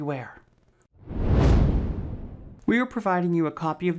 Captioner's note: frame whooshes